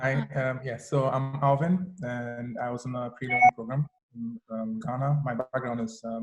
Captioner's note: beeping